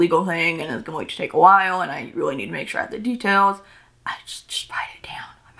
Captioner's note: whispers